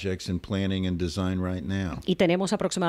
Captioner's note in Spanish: Hablando ingl\s